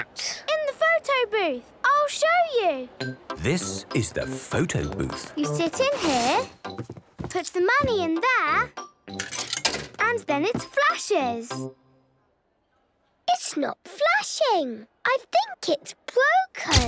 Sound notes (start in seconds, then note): 9.2 coin tumbling